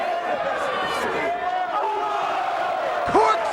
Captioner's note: crowd chattering